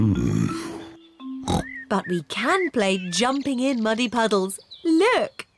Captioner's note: oinks